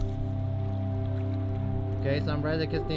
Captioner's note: wind blowing